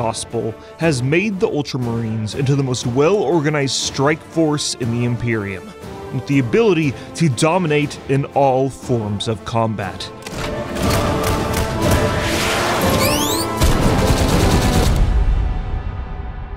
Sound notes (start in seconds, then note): 10.5 guns fire